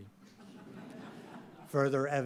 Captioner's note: audience laughing